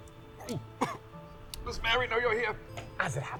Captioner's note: coughs